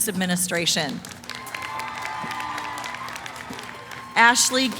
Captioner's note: cheering, applause